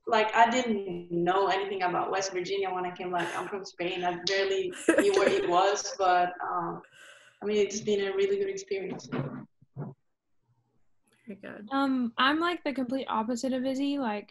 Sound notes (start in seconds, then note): 4.7 laughs